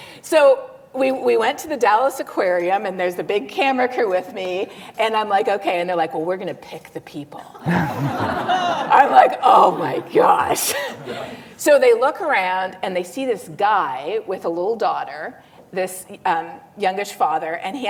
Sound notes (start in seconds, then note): 7.6 laughter